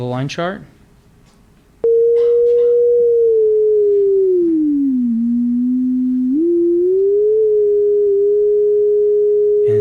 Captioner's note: electronic blooping rising and falling in pitch with the line